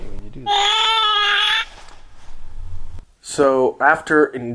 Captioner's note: baby crying